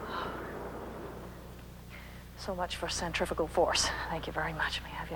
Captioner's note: sighs